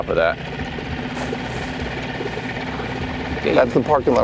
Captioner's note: engine rumbling